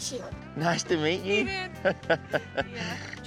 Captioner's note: chuckles